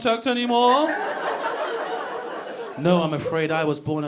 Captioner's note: audience laughing